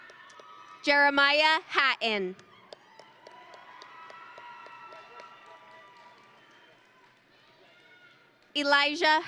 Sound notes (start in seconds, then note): 2.5 audience and graduates cheering